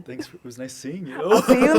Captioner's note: laughs